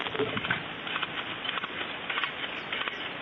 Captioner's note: winching sound